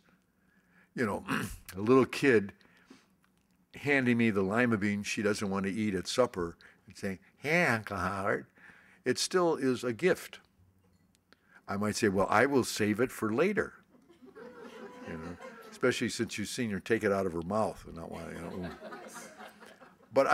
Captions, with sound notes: You know, a little kid handed me the lima beans she doesn't want to eat at supper, and saying "Here, uncle Howard." It still is a gift. I might say, well I will save it for later. (laughter) Especially since you've seen her take it out of her mouth, and not want it anymore